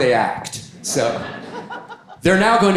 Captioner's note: audience laughing